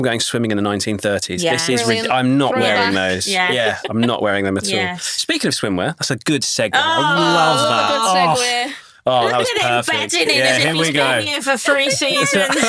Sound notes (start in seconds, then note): 2.5 chuckling; 11.7 all laughing